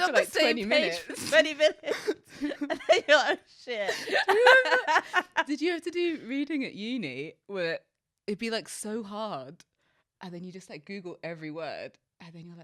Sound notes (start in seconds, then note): 3.8 laughs